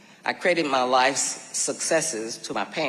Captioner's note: none